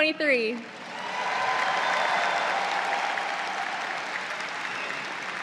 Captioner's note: audience cheers